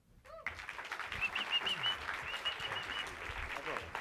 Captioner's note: applause